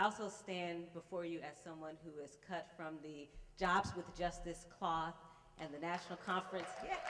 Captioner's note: applause